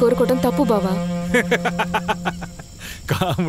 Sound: laughs

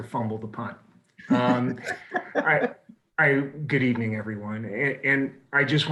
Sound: laughter

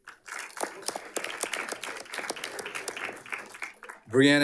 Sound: audience applauding

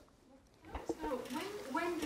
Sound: voiceover

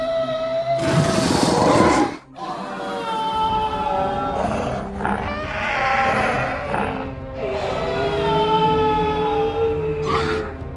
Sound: herd Sounds

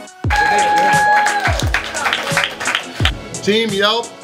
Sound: coughs; cheers; applause

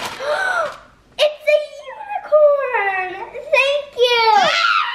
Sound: gasp; shouting

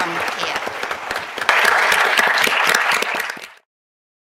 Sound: applause

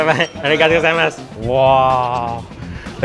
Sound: speaking in foreign language

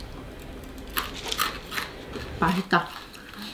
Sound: SFX: Rattle; eating

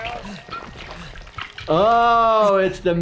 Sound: liquid splashing

